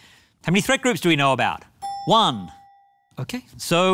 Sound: bell dings

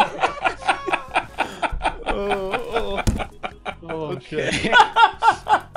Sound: laughs; laughter; continued laughter

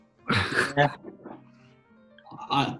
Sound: laughing

